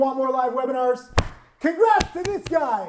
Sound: chest thuds

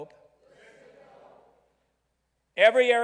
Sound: crowd

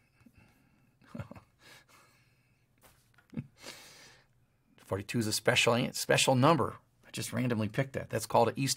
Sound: laugh

